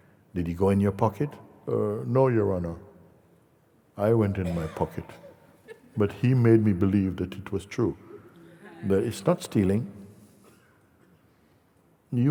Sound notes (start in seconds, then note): 8.6 laughter